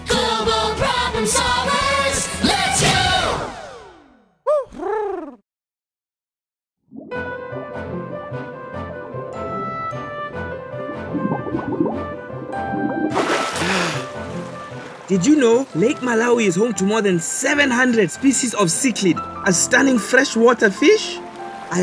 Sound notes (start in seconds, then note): 4.3 Huti hoots; 7.1 calm music